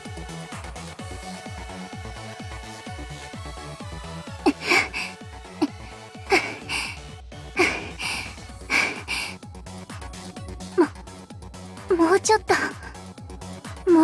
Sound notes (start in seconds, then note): 8.6 panting